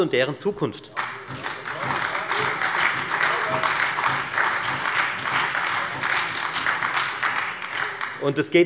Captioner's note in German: Beifall bei der FDP und der SPD